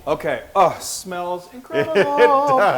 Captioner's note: laugh